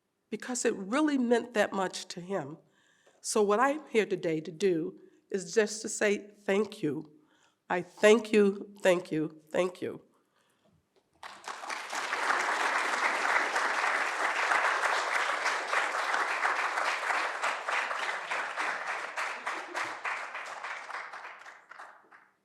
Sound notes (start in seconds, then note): 11.3 audience applauding